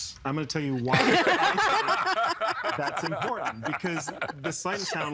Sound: everyone laughing

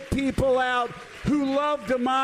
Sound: applause

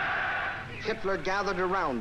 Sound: people cheering loudly

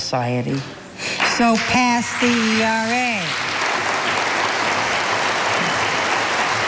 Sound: audience applauding

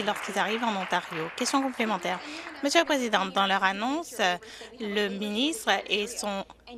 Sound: some Applause

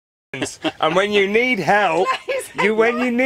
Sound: chuckles

